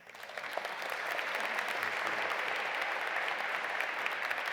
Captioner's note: audience applauding